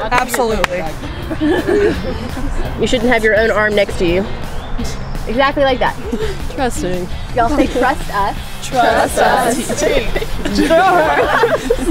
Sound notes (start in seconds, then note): 1.1 laughter; 2.9 voiceover; 7.5 voiceover; 10.0 laughter